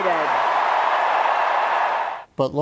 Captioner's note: cheers and applause